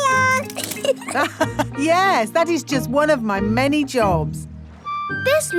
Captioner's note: laughs